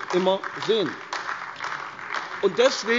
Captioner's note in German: Beifall AfD